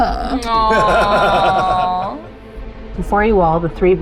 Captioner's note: laughing